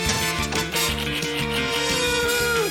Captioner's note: thud!; keys clack; groans